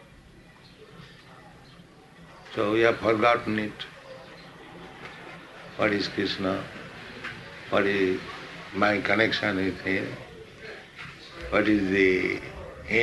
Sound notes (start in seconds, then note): none